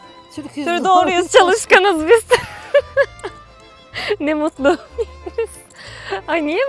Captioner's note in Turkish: kahkaha